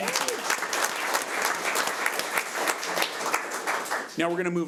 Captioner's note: audience applauds